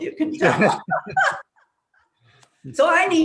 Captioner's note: laughing